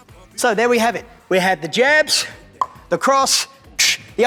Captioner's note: clicks tongue